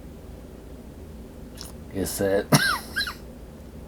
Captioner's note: coughing